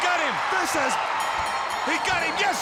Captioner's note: bell dinging